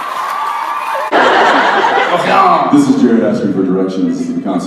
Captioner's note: audience laughs and cheers; Jared, exaggerated French accent